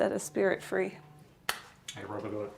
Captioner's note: phone buzzing